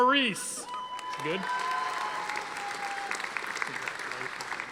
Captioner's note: audience applauding